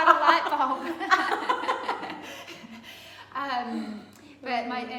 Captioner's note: both laughing